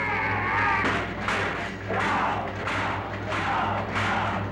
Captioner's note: metal banging